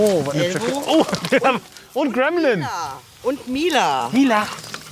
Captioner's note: laughs